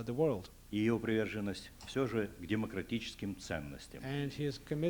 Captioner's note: non-english speech